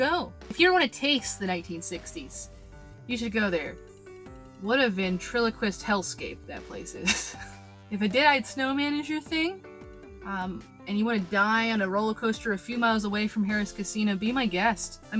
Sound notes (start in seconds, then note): 7.0 breaks to laugh